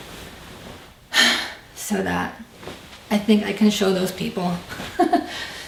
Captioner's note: sighs; laughs